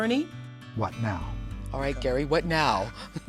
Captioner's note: laughs